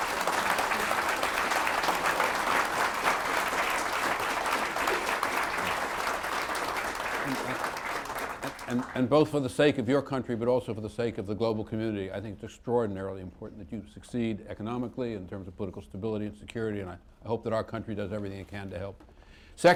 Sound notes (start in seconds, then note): 5.5 applause